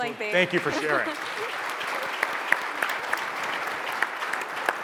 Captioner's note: audience applauds